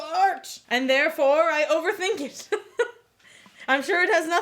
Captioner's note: laughs